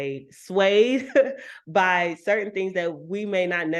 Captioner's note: chuckles